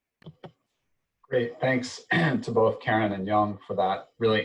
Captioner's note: clears throat